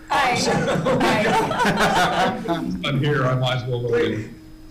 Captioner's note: laughter irrupts